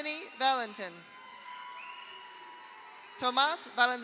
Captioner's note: audience cheers; audience applauds